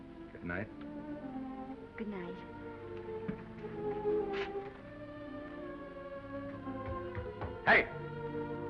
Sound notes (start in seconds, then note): 2.9 gentle music; 3.0 footsteps receding